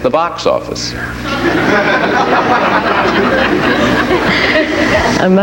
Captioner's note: audience laughs